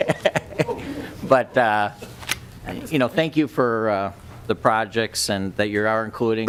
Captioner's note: laughter